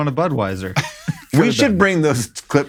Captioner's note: laughs